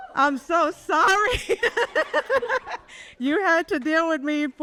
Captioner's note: laughs